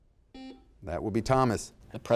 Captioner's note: buzzer sounds